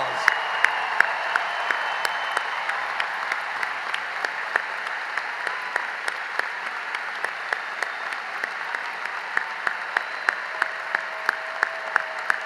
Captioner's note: cheering and applause